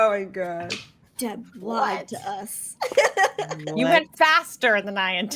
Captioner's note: laughs